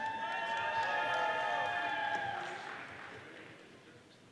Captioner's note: audience cheering